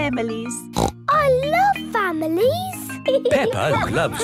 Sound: snorts

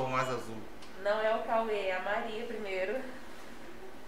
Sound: laughter

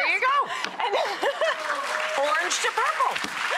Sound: applause

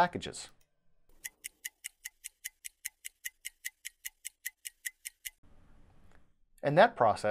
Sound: clock ticking

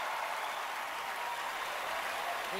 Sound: cheering, applause

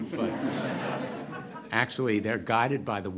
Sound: audience laughter

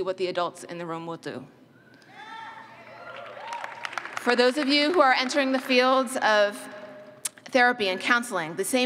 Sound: cheers

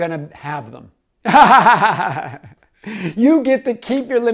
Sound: laughing

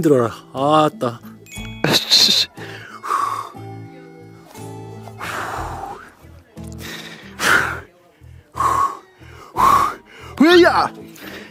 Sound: rough breathing

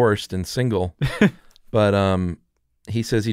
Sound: chuckles

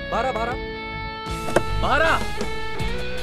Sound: door opens

